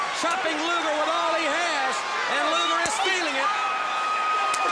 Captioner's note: crowd cheering